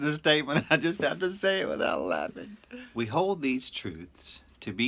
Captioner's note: chuckling continues